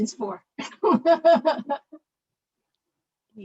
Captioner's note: laughter